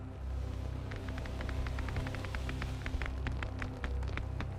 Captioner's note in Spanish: crujido de lona